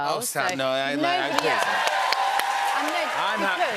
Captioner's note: cheers and applause